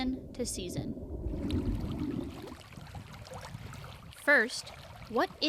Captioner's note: water splashing